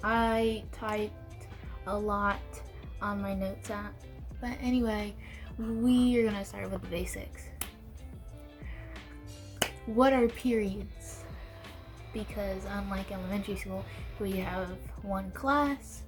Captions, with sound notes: I typed a lot on my notes app but anyway...we are gonna start with the basics. *claps hands* What are periods? Because unlike elementary school, where we have one class...